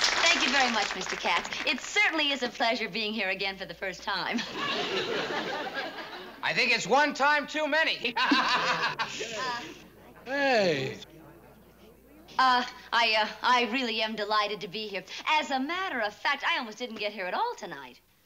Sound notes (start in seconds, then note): 4.3 laughter; 8.0 laughing